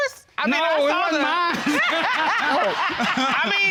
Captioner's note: all laughing